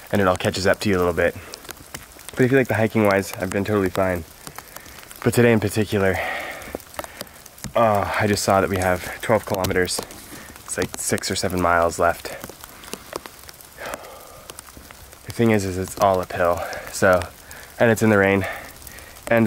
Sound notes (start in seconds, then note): 13.1 rain falling heavily; 13.6 sighs